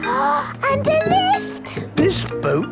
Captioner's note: gasps